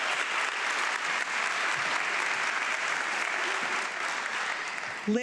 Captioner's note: audience clapping